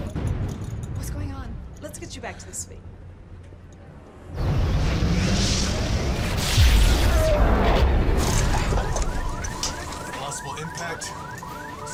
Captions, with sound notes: WHAT'S GOING ON? LET'S GET YOU BACK TO THE SUITE. [ALARMS BLARING] POSSIBLE IMPACT.